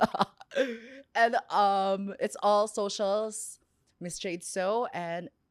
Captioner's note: laughs